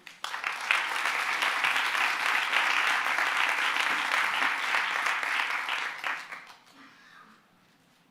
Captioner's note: applause